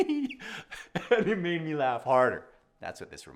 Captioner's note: laughs